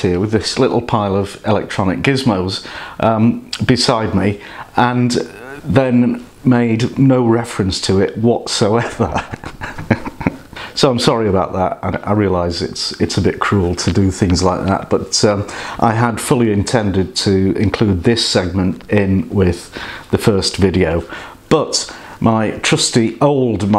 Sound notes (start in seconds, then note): 8.7 laughs